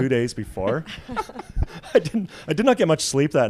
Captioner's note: laughs